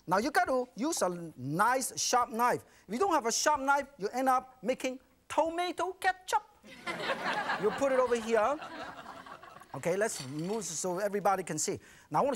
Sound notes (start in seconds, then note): 6.7 audience laughing